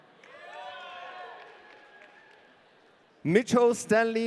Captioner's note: audience cheering